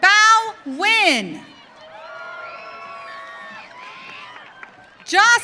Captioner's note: audience cheering